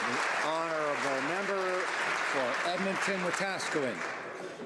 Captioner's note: applause